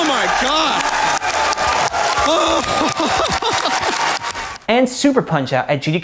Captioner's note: laughing and crowd applauding